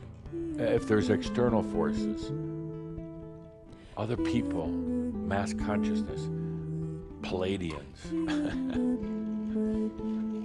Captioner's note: Adamus chuckles